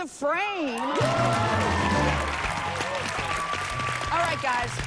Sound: cheers and applause

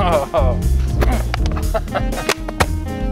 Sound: chuckling

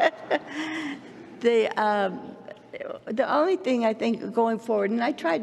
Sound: laughs

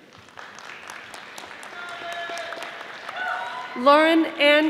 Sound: audience applauding

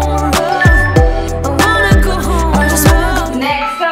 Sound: alarm beeping

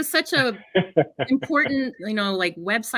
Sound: laughs

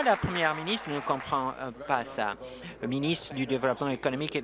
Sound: applause

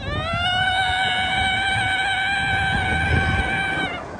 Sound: screaming

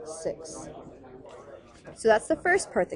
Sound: chatter

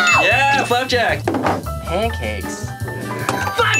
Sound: bell dings

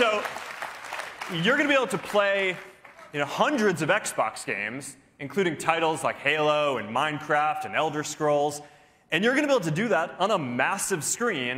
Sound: cheers and applause

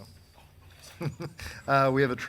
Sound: man laughing

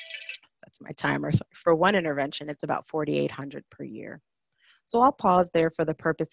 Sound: phone ring

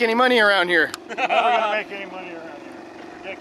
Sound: chuckles

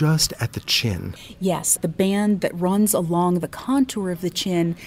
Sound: voiceover

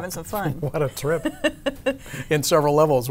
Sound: laughs; chuckles

